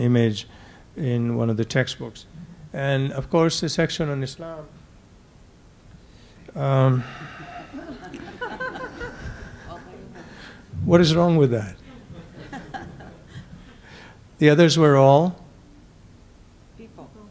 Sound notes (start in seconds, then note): 6.8 sighs; 7.0 laughter